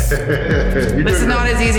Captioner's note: man chuckling